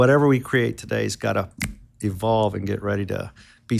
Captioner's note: snaps fingers